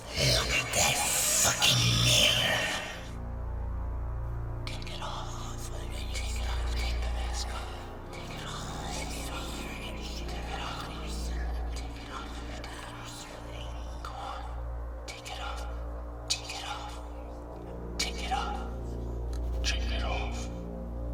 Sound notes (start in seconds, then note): 4.9 whispering